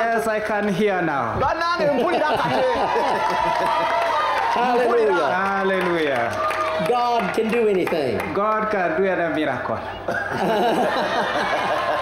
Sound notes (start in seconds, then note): 2.5 applause and cheering; 10.0 boisterous laughter